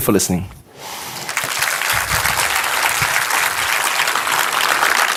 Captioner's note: audience applauding